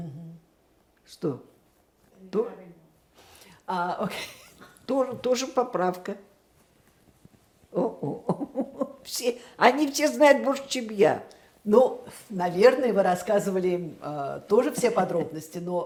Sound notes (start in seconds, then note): 7.8 laughing